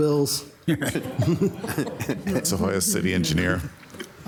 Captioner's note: council members chuckle